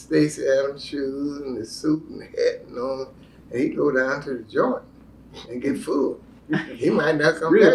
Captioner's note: laughter